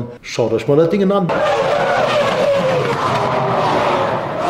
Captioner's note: engine sound